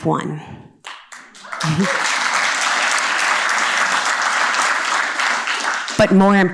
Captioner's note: cheers and applause